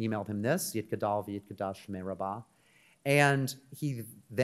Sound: speaks in Hebrew

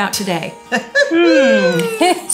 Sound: puppet humming; laughing

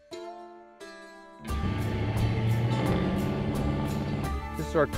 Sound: country music; car engine revving

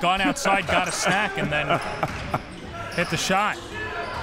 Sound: laughs

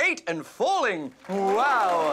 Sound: applause

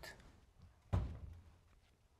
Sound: door closes

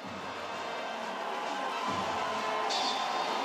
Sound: crowd cheers

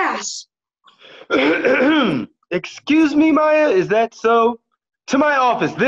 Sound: clears throat

